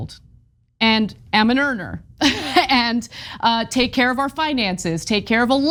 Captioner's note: laugh